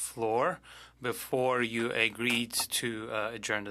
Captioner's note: speaking French